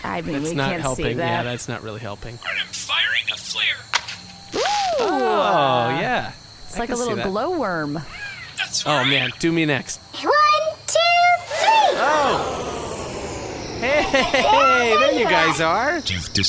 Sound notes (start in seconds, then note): 3.3 small fireworks noise; 11.3 shrinking machine noises; 13.7 laughing